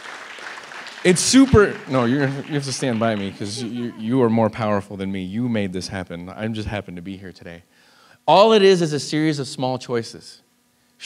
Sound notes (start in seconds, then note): 1.8 laughs